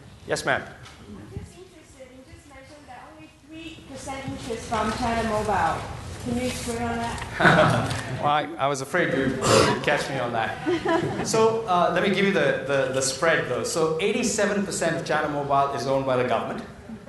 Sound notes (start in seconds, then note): 7.3 chuckles; 10.6 chuckles